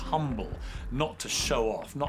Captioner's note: audience laughs